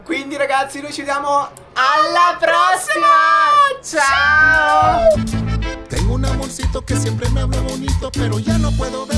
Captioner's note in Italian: urlo